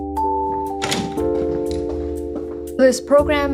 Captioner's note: door closing